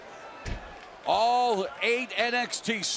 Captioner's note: crowd cheering